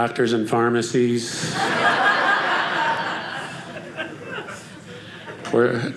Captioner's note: audience laughing